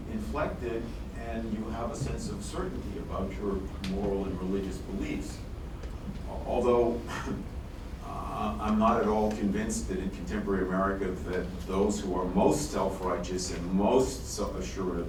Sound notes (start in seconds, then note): 7.0 sighs